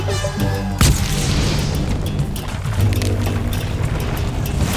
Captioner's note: electrical crackling